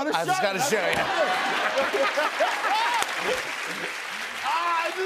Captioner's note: laughter and applause